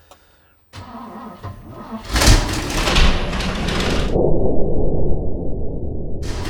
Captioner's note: engine sputtering and turning